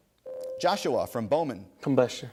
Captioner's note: ding